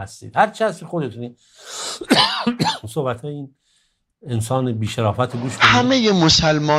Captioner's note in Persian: صدای سرفه